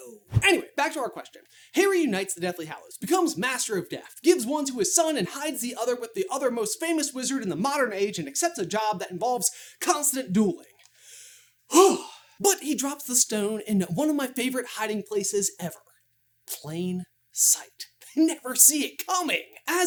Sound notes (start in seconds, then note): 11.6 frustrated sigh